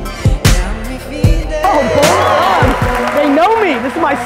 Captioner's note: audience applause